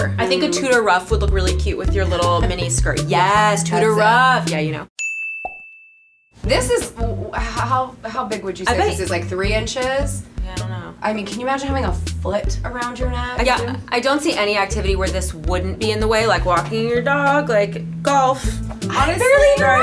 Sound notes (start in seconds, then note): 5.0 dings